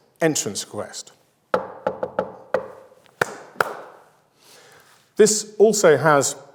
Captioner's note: knocking and clapping call and response rhythm